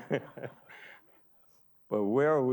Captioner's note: everyone laughing